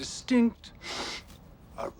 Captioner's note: sniff